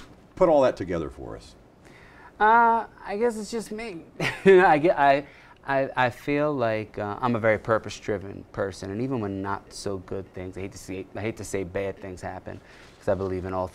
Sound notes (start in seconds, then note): 4.2 chuckles